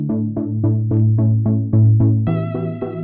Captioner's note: none